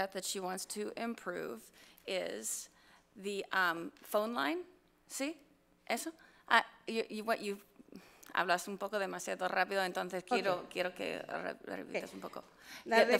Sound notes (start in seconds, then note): 5.3 board member speaks foreign language; 8.8 speaks foreign language